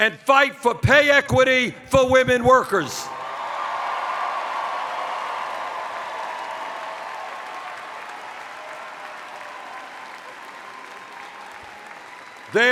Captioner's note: cheers